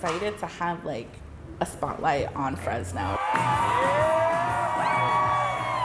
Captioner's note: cheering